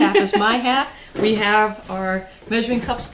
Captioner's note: laughing